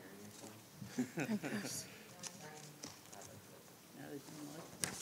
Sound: councilors laugh

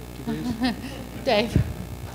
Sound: laughing

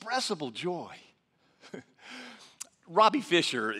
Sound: laughs

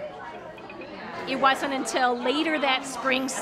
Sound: none

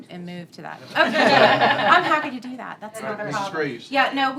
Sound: laughter

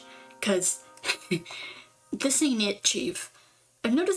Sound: laughs

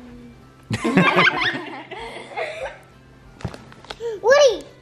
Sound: all speakers laugh together

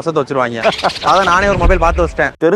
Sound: laughing

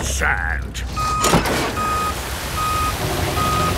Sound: beeping

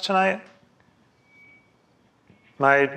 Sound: silence

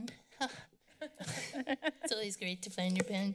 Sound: laughter

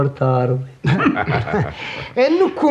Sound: all laugh

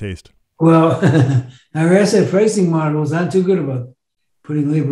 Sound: chuckles

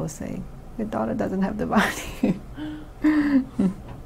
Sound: laughs

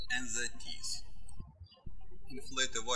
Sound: birds chirping

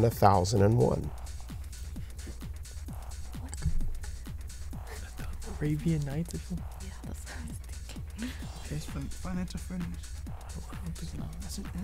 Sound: wispering

